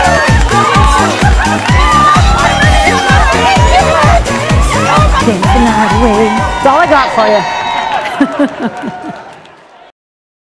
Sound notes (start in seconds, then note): 8.0 laughing